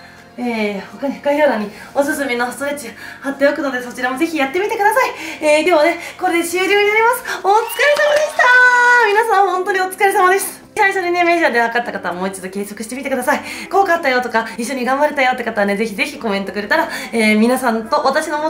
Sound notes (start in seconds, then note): 7.6 bualadh bos